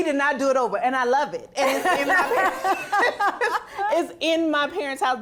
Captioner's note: audience laughing